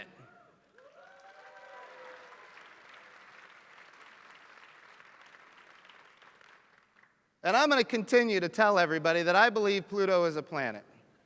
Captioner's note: applause